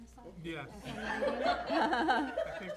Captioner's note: laughter